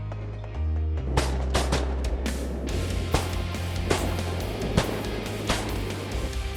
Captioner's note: gun shots